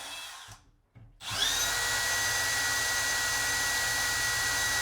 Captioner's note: drill whirring